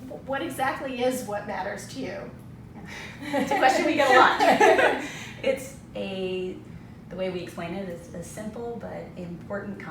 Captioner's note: laughter